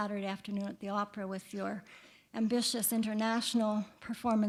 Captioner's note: none